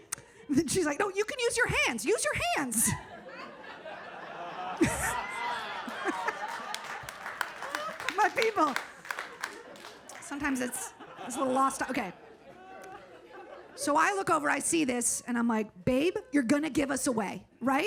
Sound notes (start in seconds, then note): 3.3 audience laughs; 6.5 audience claps